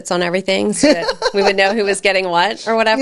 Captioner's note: laughs